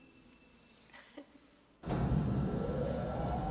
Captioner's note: eerie elevator sounds